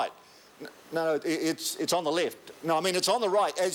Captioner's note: stammers